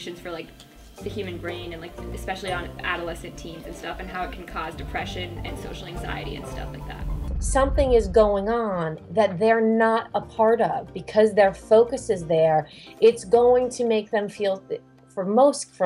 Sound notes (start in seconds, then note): none